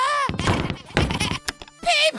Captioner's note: running noises